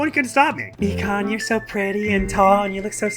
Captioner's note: hyper-sub voice